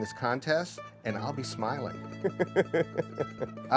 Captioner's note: laughs